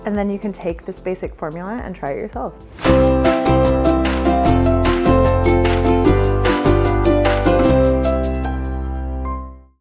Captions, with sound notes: and then you can take this basic formula and try it yourself. (air whooshing) (upbeat music)